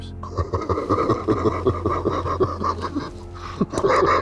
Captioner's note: laughing